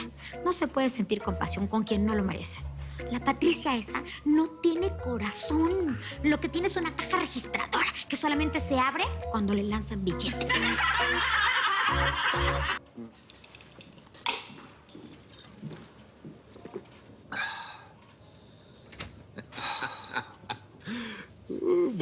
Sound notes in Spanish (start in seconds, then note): 10.4 Risas